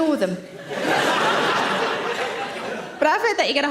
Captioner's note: audience laughing